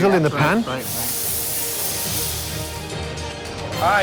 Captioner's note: pan sizzles